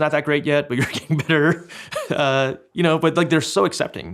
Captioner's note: chuckles